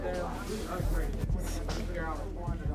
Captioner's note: conversations continue